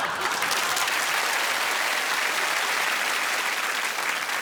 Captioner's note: applause